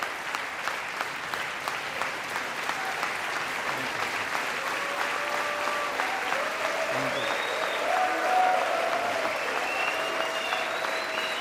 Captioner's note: applause